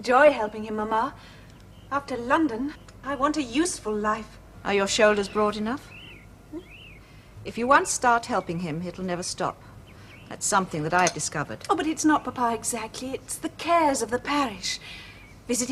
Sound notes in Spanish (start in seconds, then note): none